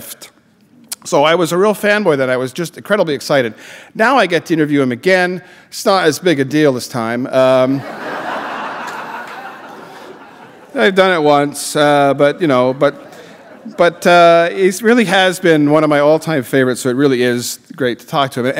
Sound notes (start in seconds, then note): 7.7 laughter